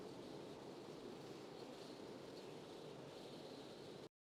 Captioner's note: wind